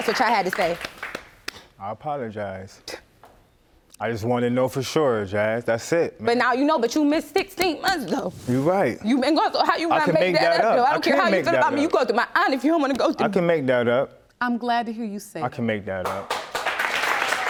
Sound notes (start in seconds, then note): 2.8 scoffs